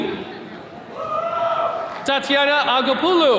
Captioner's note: attendees cheering